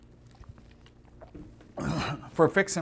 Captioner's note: clears throat